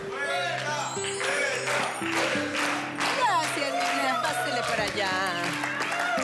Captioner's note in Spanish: Exclamaciones